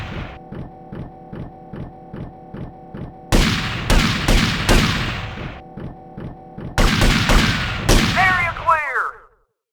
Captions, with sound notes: (gunshots) (gunshots) (gunshots) (gunshots) Area clear!